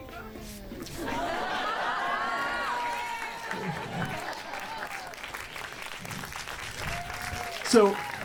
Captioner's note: mounting laughter from audience; laughter and applause